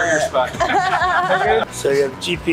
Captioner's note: laughing